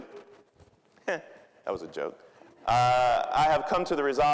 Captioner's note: chuckling